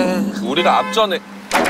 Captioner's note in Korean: 빠아앙